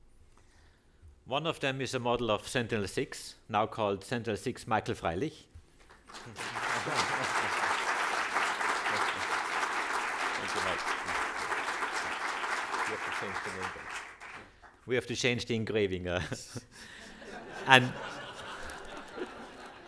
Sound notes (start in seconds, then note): 11.9 applause